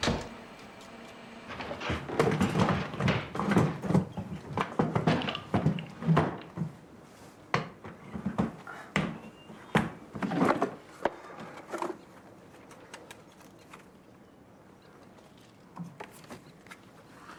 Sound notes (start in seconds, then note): 0.0 door closes; 1.5 stool clunks